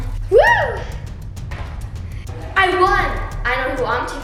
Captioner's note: cheering